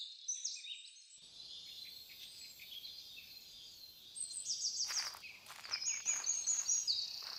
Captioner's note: nature Sounds